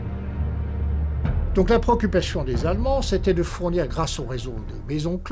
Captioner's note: French spoken audio